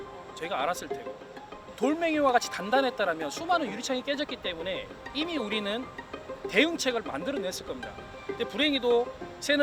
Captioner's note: birds